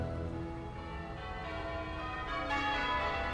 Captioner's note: les cloches de la cathédrale sonnent